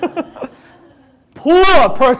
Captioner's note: audience laughs